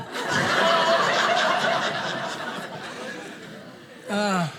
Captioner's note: audience laughing